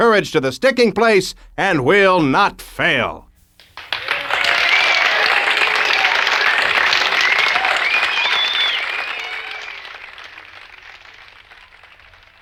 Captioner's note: applause